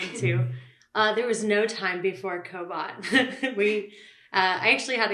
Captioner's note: laughs